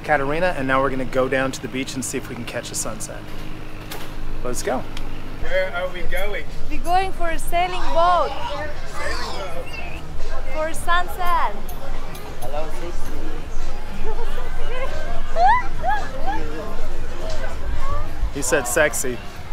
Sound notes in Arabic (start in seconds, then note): 13.9 يضحك